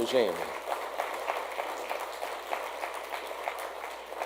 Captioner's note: audience applauds